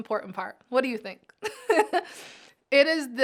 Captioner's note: chuckles